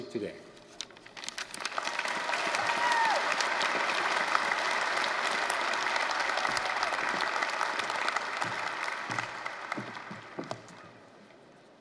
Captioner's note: applause, cheering